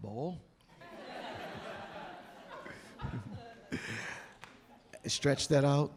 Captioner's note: audience laughing